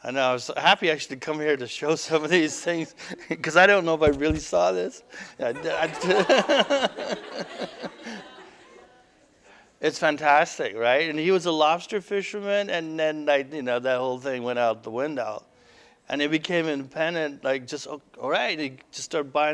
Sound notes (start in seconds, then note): 0.0 laughter; 5.1 audience: Laughter